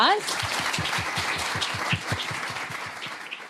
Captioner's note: applause